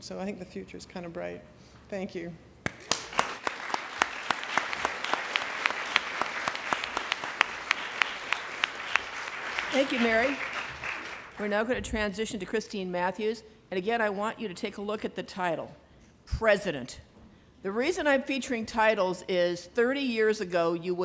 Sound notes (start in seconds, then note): 2.6 applause